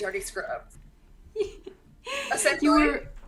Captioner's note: laughs